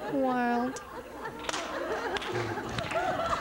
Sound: laughter

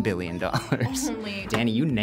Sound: laughs

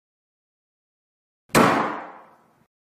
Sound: door Slam

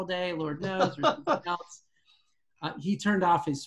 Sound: laughs

